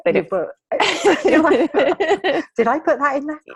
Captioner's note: laughing